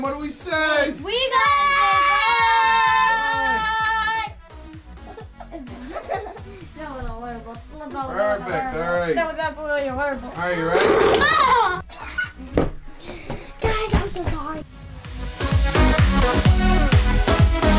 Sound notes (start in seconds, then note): 11.1 giggles; 15.1 upbeat music